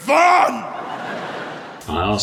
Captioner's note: audience laughs